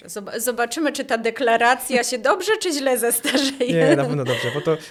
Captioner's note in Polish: śmiech